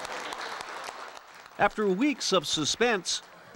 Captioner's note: applause